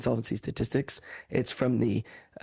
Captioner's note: speaking French